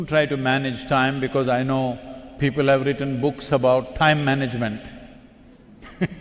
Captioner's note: laughter